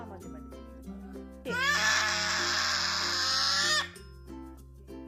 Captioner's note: baby sounds